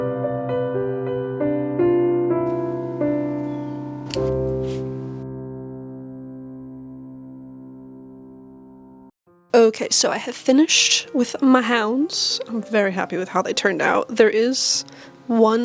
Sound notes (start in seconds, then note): 4.0 scissors snip, music ends